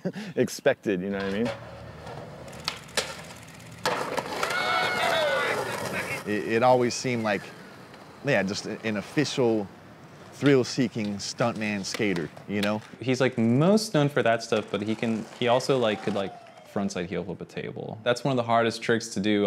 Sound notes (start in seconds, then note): 4.3 cheering